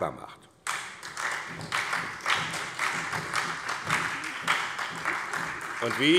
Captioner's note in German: Beifall bei der SPD